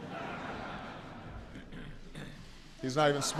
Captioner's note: laughter